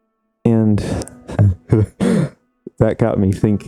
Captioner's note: chuckles